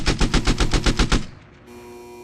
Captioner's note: gunfire